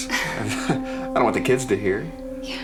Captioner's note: chuckles